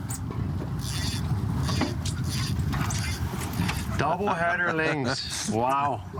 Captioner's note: rod reeling; laughs